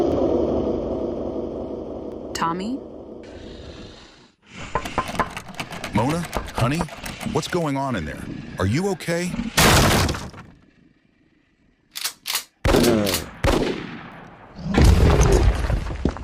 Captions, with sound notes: Tommy? [Knock] - Mona? Honey? What's going on in there? Are you okay?